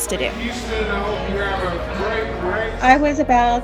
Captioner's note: background race announcements